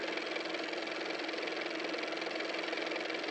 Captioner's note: car motor